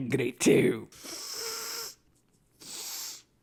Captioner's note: sniffles